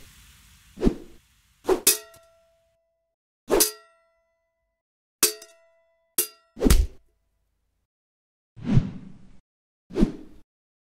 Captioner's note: glass being struck